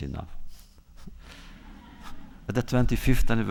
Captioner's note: laughter